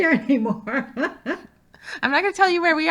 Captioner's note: laughing